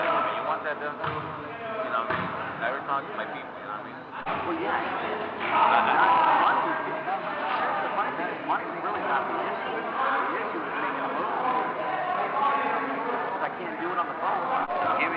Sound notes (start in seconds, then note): 5.0 background voices shouting; 7.1 voices chattering